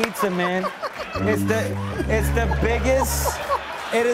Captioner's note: laughter; sad tuba